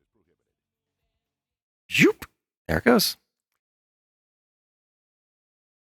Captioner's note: zhoop